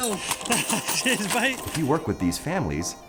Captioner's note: laughs